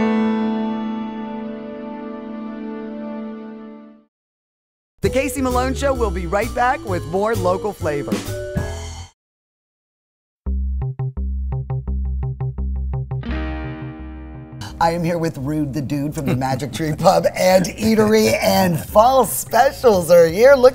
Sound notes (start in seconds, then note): 5.0 jazz music; 11.5 techno guitar music; 16.2 rude laughs